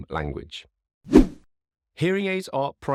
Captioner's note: screen whooshing